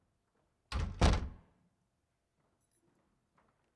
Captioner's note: door slamming